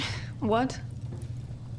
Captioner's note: scoffs